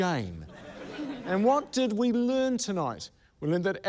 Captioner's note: laughter